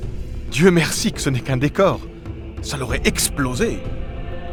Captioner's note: speaking French